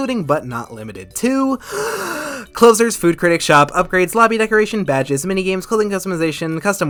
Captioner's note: inhaling